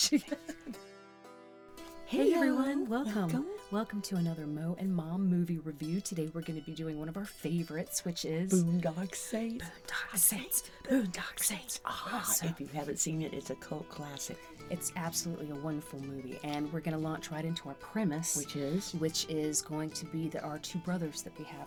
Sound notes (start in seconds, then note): 10.8 chanting